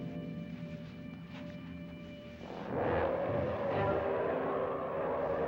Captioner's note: roaring